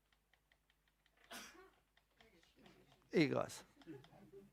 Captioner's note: sneezing